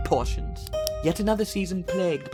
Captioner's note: pen clicks